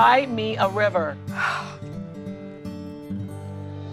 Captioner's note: exhales deeply